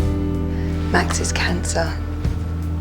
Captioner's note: voiceover